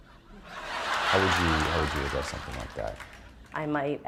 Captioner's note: laughter